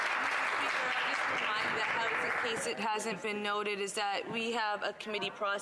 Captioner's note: some Applause